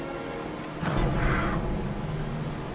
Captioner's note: low growl